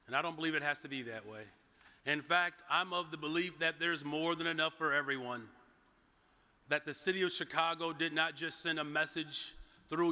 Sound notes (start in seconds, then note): none